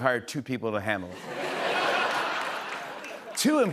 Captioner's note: laughter